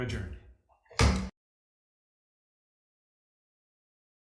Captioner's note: gavel thudding